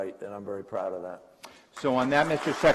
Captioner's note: applause